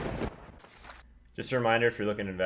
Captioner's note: paper ripping; lightening and thunder; page ripping